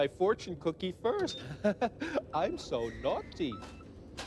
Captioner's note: chuckles